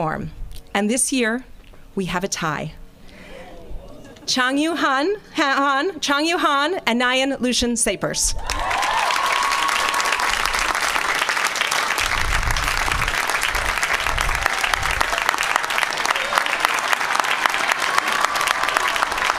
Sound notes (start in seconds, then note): 9.1 applause